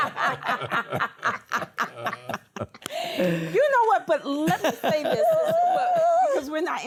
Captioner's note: laughter